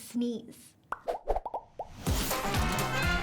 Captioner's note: background bubbles rapidly popping